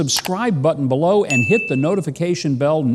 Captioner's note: bell dinging